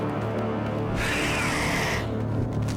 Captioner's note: screeching